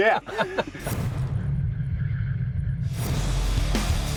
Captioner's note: electronic whirring; heavy metal music